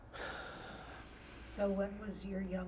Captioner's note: sighing